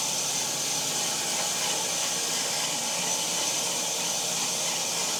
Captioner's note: saw buzzing continues